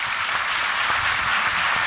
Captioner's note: applause